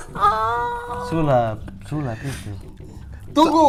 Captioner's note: laughing